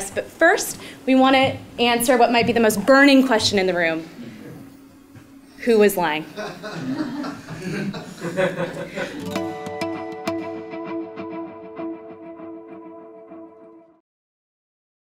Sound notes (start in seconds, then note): 6.3 laugh